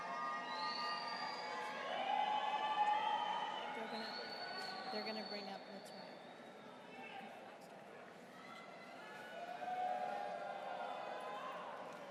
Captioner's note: applause